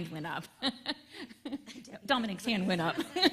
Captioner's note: laughs